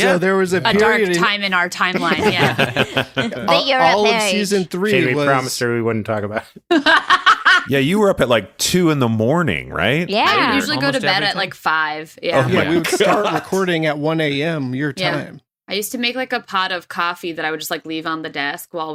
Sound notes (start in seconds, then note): 6.8 laughs